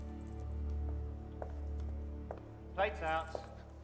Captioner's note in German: Schritte